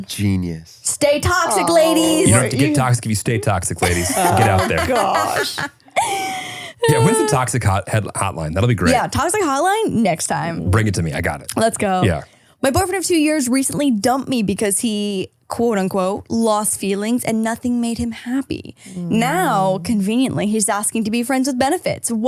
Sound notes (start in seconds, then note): 5.7 all laughing